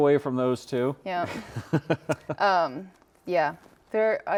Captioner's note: laughs